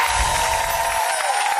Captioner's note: audience applause; wind chimes